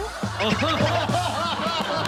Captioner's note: laughing